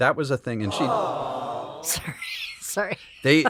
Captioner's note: crowd awws